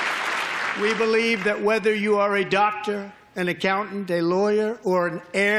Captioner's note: applause